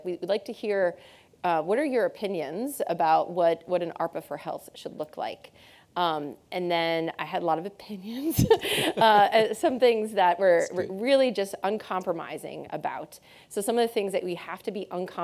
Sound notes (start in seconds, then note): 8.2 laughing